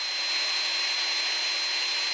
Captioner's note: bright whirring